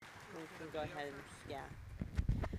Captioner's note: audience applauding